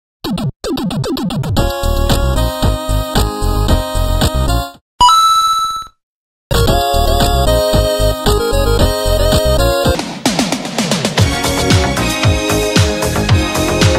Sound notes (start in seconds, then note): 5.0 mario coin ding